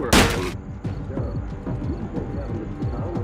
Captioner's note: hammer slamming; crickets chirping; dramatic suspenseful music